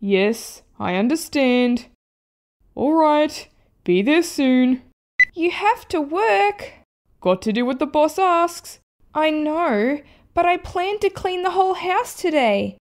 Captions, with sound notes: Yes, I understand... Alright, be there soon (Click!) You have to work? Got to do what the Boss asks I know, but I planned to clean the whole house today